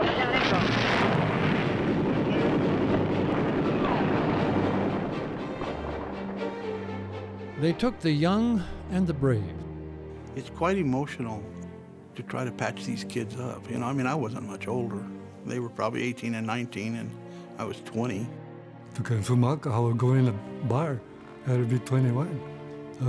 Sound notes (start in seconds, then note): 0.0 booms; 1.9 gun fires